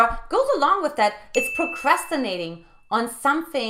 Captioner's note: bell dings